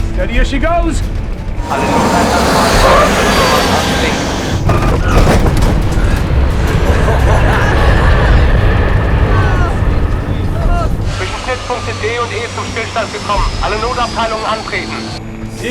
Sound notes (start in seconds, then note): 2.1 PA SYSTEM-In German; 6.6 laughter; 11.8 in German